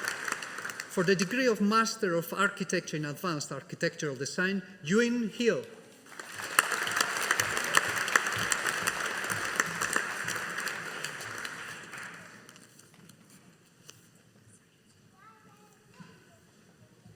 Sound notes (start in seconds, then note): 6.0 audience applauding